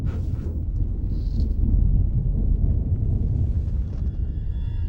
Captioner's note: thunder rumbles